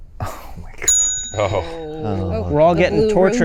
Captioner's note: bell ringing